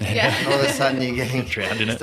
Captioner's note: haha